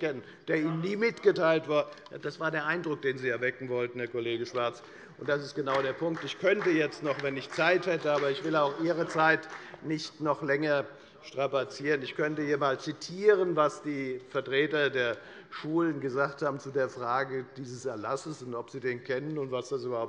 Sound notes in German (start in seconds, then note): 4.9 Beifall bei der FDP